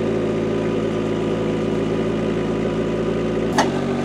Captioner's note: engine revving